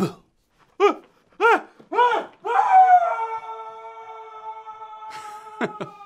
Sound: Bob screaming

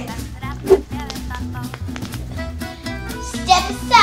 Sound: cracking knuckles

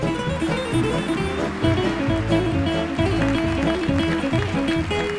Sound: audience applauding

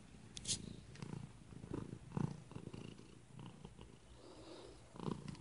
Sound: loud purring

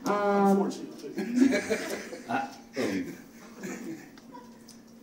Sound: audience laughs

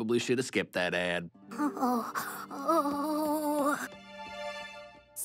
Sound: whimpering

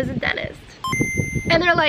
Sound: video game beeping

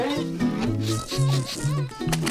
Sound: sniffing

